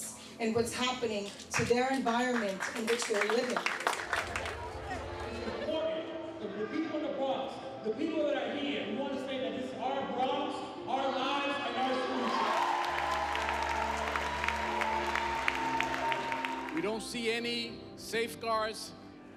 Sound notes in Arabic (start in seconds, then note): 3.6 الحشد يصفق; 11.2 هتاف الجمهور; 11.8 تصفيق الجمهور